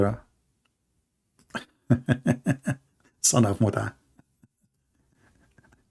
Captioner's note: Ketawa